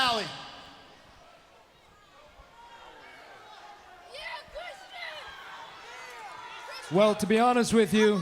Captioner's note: crowd chatter